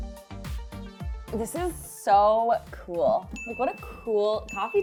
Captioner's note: upbeat music; bell dings